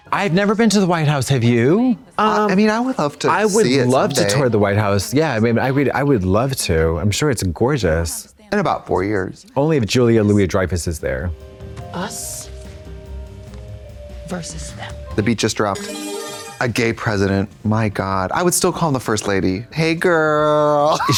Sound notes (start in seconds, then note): 15.7 bright chime